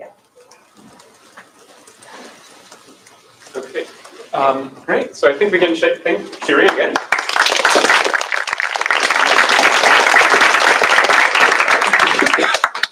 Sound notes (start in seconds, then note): 6.6 applause